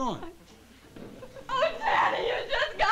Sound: shrilly

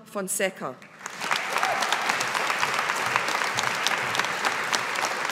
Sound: audience applauding

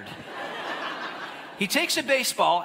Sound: audience laughing

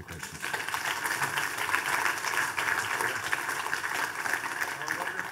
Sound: audience applauding

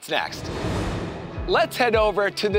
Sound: air whooshing

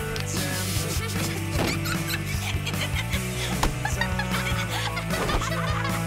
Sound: laughing

